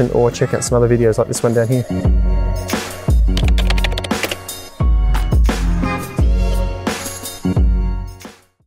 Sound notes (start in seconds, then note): 2.7 upbeat music; 3.3 typing sounds